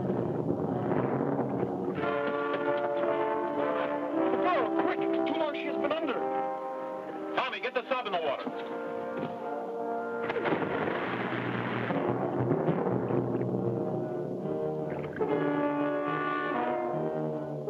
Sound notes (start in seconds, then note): 10.2 water splashes; 12.4 dramatic music